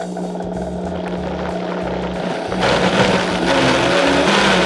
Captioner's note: blender grinds